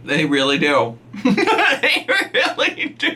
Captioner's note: laughs